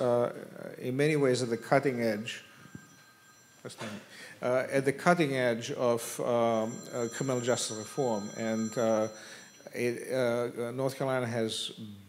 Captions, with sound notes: - I must say North Carolina is in many ways at the cutting edge, (phone rings) that's not me, at the cutting edge of criminal justice reform and